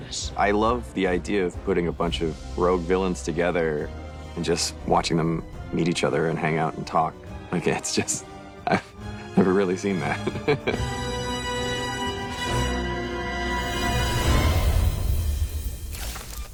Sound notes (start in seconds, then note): 10.0 laughs